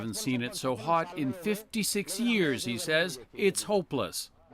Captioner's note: speaking alternate language